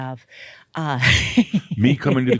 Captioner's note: she chuckles